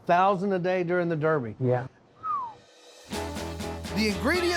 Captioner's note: whistles